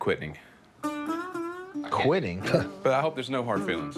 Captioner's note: chuckles